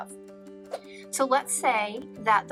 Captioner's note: air whooshing